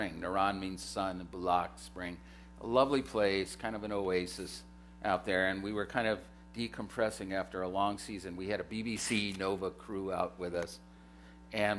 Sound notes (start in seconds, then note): none